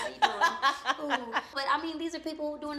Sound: laughs

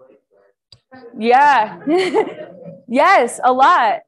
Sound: and others laughing

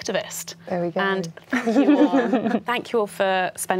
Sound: laughing

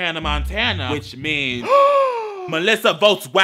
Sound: gasp

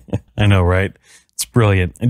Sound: laughs

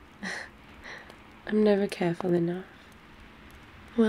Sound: laughs

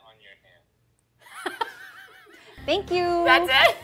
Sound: laughs

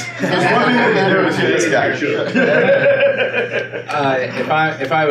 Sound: laughing

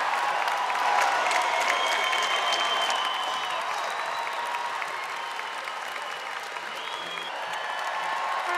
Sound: audience applauding and cheering

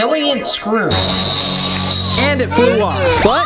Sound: drilling sound

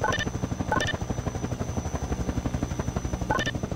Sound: helicopter Blades Spin

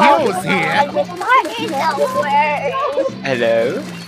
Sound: sobbing

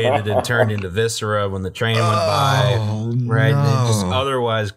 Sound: laughter and disgust

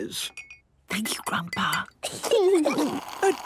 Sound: Granny whispering; children giggling

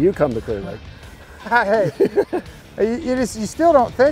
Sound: laughs

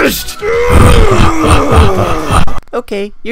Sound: intense yelling on a dramatic level

